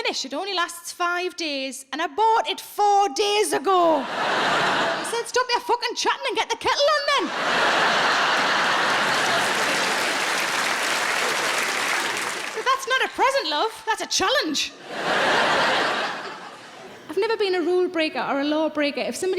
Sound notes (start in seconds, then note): 3.9 audience laughs; 7.2 audience laughs; 10.2 audience claps; 14.7 audience laughs